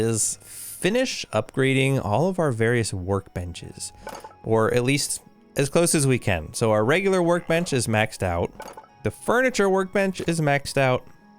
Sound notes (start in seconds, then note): none